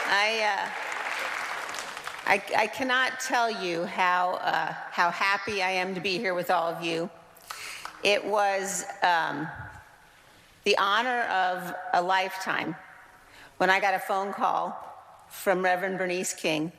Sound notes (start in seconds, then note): 1.6 applause